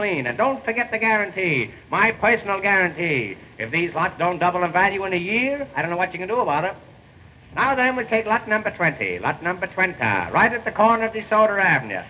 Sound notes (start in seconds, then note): none